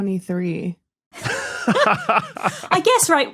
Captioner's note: group laughing